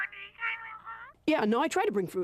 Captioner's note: muffled voice from phone